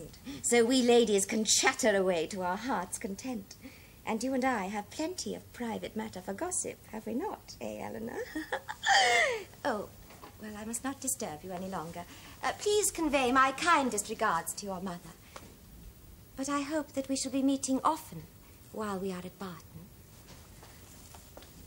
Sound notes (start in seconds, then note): 8.2 giggles